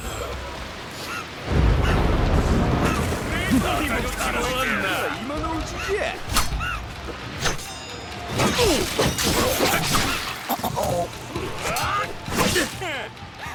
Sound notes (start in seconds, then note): 1.4 thunder clapping; 3.9 speaking in foreign language; 9.2 warriors shouting